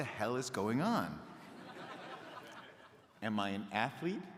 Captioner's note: crowd laughing